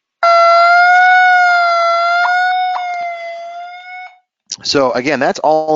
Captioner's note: electronic tone blaring